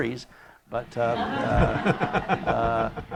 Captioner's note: laughter